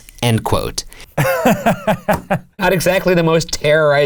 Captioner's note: laughs